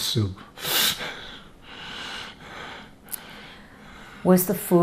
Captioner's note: laughing